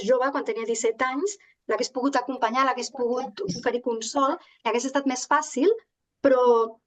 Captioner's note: continues speaking in Catalan